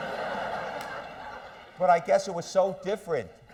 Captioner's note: laughter